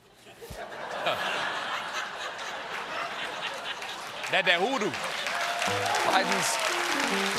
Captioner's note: laughter; applause